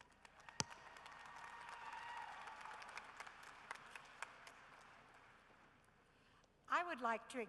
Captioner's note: cheering and applause